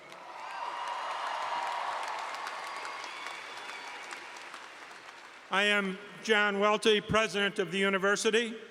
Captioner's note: cheers and Applause